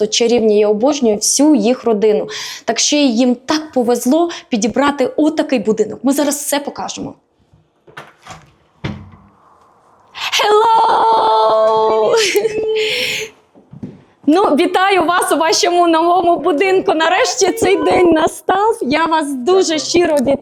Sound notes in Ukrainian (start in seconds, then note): 10.9 сміх